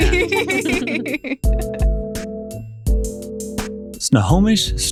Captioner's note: laughing; upbeat Music